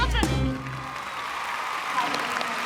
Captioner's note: applause